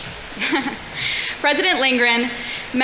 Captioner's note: laughs